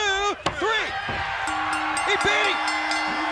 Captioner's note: bell ringing